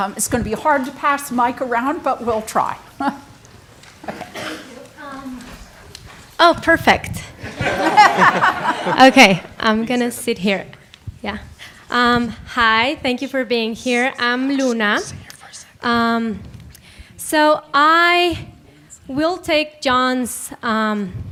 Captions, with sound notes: It's gonna be hard to pass the mic around but we'll try. - Thank you. Oh, perfect. (audience laughing) Okay, I'm gonna sit here, yeah. Hi, thank you for being here, I'm Luna. So I will take John's proposition one step further